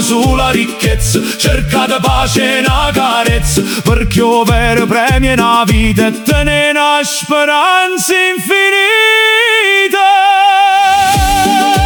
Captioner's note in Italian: urlo